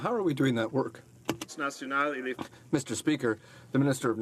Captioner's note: speaking in french